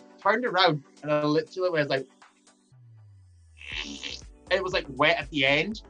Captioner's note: fart noise